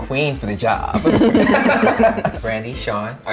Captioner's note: laughter